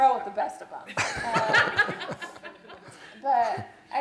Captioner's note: laughter